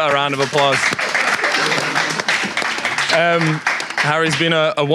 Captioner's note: audience applauds